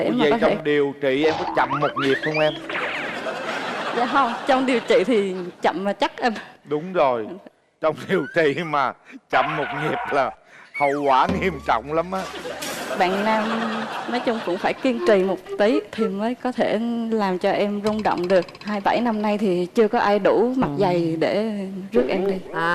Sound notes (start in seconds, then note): 1.3 laughing